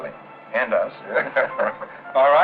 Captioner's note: laughing